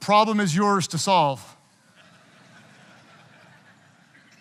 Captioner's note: audience chuckling